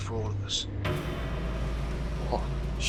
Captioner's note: dramatic noise